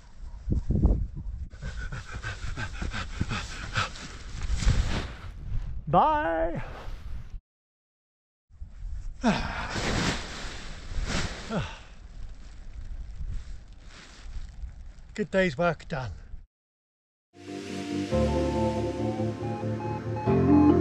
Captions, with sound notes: (heavy breathing) Bye! Good days work, done. (upbeat music)